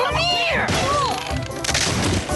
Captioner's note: bang!